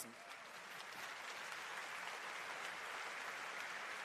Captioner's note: applause